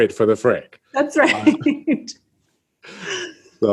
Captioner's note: laughs